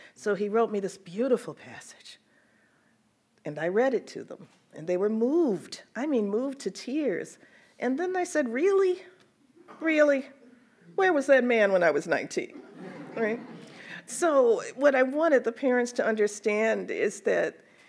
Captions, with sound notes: So he wrote this beautiful passage. And I read it to them and they were moved, I mean moved to tears. And then I said, "Really, really? "Where was that man when I was 19?" (audience laughs) So what I wanted the parents to understand is that